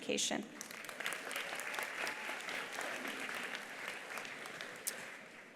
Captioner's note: attendees applauding